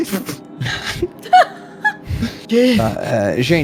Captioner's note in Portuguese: Risada